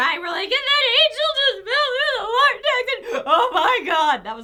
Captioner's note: fake sobbing